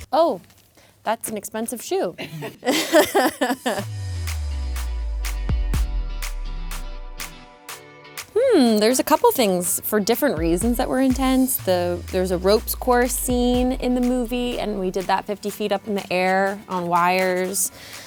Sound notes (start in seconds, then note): 2.2 laughing; 4.1 soft music